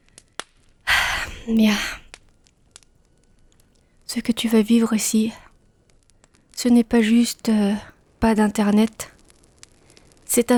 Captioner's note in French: soupir